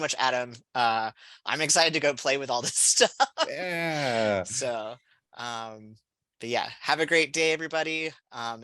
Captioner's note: laughter